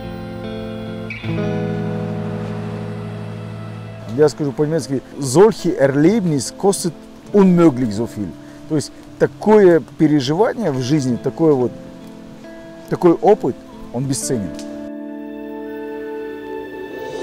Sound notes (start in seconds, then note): 4.8 speaks in german